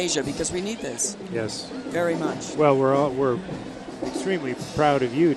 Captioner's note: none